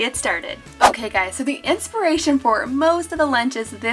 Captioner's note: air whooshing